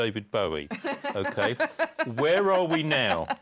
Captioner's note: laughter